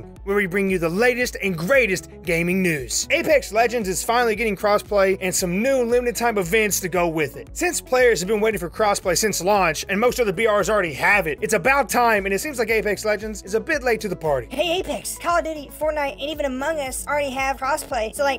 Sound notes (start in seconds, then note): 14.5 voice tone change